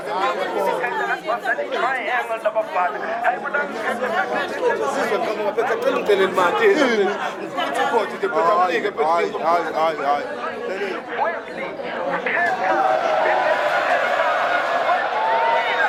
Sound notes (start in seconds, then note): 11.4 crowd cheering